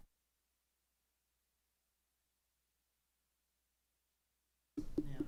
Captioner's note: audio cuts out